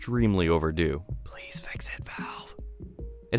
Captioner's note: whispering